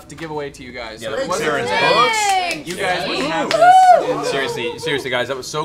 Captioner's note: cheering